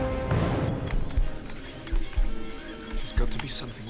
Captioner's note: monitor chirping and whirring